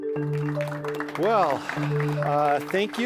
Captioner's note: audience applause